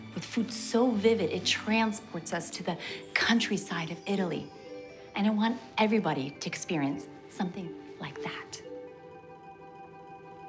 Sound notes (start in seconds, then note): none